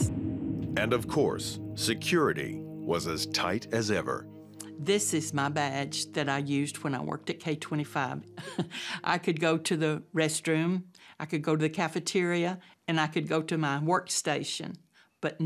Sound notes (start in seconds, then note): 8.3 chuckles